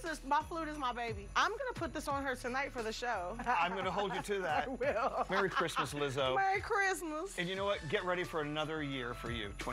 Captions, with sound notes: This is--my flute is my baby. I'm gonna put this on her tonight for the show. I'm gonna hold you to that. -[laughs] -Merry Christmas, Lizzo. -Merry Christmas. -And you know what?